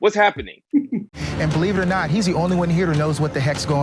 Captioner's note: female laughing